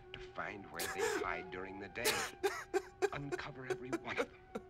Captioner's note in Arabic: بكاء